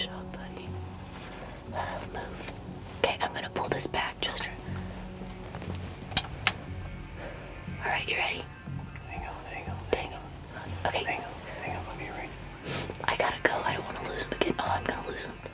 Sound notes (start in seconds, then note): 0.8 whispering; 8.9 whispering; 12.7 whispering